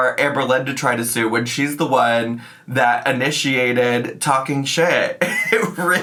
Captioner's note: laughs